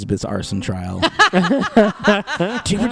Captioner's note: laugh